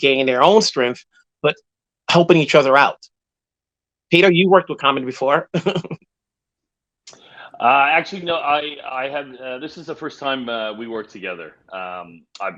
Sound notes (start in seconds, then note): 7.4 laughs